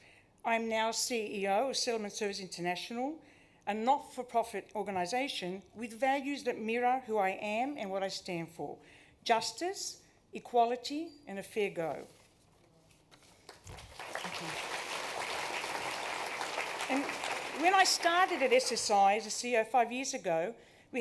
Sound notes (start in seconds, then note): 13.4 applause